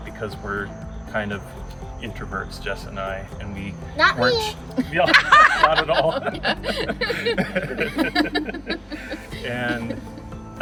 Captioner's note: laughter